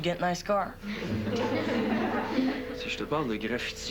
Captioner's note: Rires